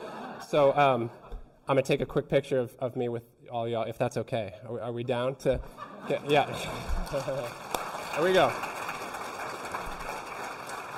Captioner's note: applause